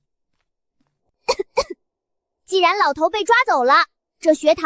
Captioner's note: cough